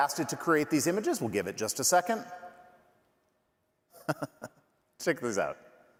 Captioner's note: laughing